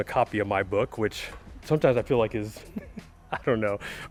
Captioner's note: laughing